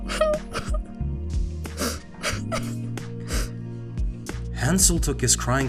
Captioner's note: sob